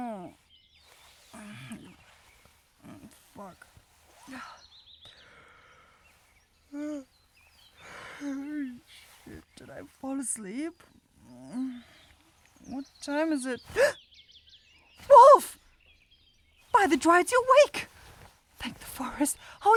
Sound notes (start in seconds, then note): 7.8 yawn